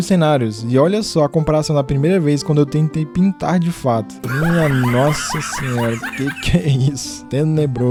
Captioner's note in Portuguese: risadas